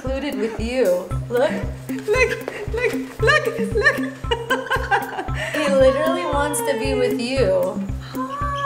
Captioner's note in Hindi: हँसी